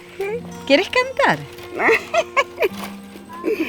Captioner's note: laugh